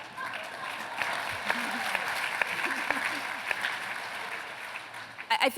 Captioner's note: applause